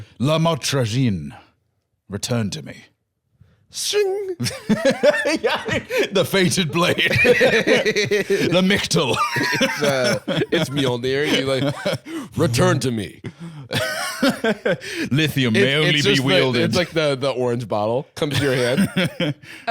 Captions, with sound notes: "La Motrigine! Return to me." - Shing! - (laughing) Yeah, dude! The fated blade. (both laughing) - "Lamictal!" - It's, uh... It's Mjolnir. You, like... "Return to me." - "Lithium may only be wielded—" - It's like the orange bottle comes to your hand.